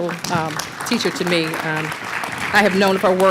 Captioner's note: applause